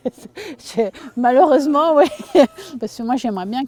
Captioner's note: laughter